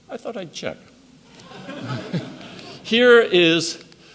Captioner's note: audience laughs